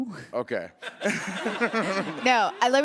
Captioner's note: laughter